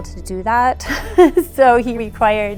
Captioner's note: laughter